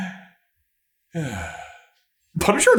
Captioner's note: sigh